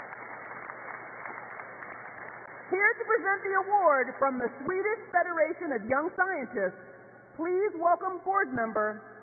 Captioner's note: applause